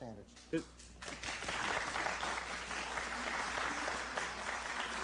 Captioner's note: applause